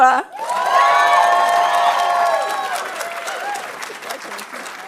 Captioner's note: audience cheering and applauding